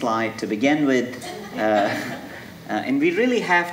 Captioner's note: audience laughing